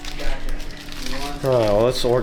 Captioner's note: paper Rustling